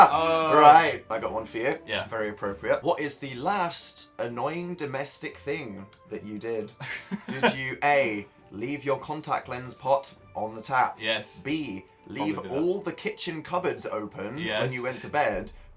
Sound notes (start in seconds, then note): 6.8 Phil laughs